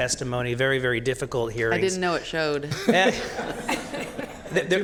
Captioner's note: laughter